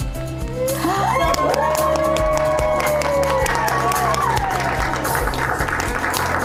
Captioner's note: audience applauding; upbeat music; organizers cheering and applauding